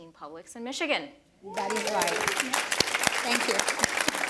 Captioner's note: applause continues; applause, cheers